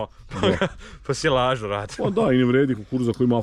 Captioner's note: laughter